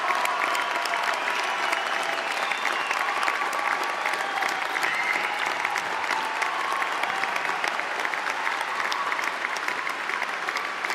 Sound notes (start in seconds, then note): 2.4 applause